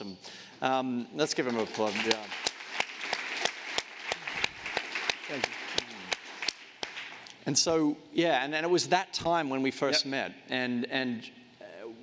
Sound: applause

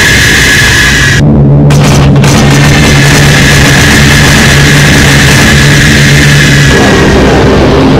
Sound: Consolidated B-24 bomber dropping bombs; Boeing B-17 bomber dropping bombs

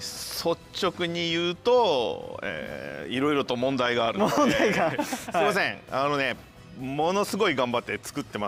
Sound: laughs

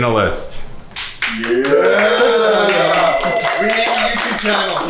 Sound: contestants cheering and applauding

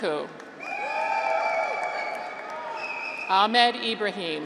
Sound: graduates cheer

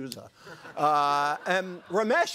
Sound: group laughing

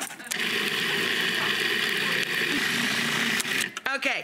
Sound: audience laughs; food processor whirring

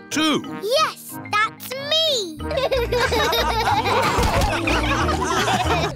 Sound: all laughing

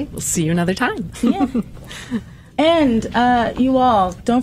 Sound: laughter

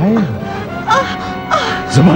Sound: groans

